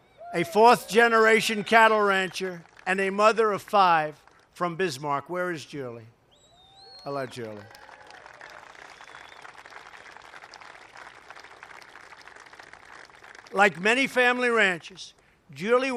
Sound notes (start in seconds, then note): 10.8 applause